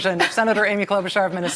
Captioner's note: laughter